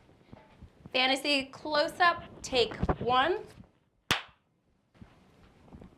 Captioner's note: claps